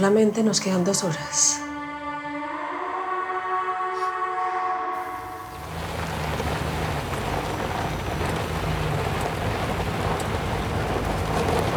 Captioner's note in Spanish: Sonidos del vehículo